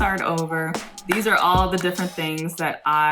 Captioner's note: claps